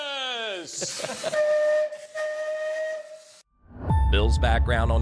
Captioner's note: horn whistling